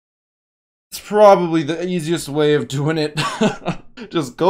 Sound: laughs

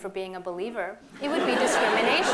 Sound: laughter

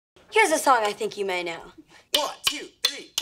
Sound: tapping

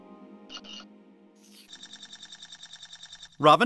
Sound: trembling squeaks

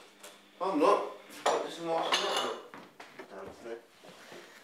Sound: none

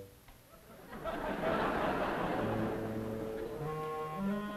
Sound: audience laughs

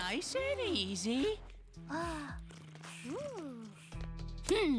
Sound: exclaiming

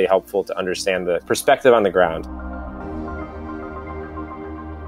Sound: voiceover

